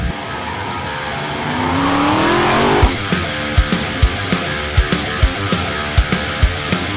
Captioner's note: upbeat rock music; engine roars; upbeat rock music continues